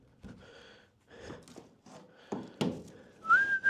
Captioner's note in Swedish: drar efter andan